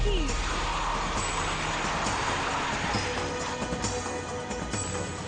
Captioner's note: car engine whirs; car screeches; suspense music